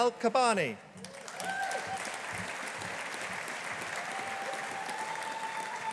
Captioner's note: audience applauding